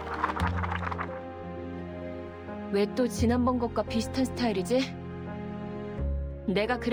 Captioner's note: applause